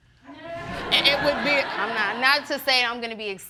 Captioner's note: audience laughing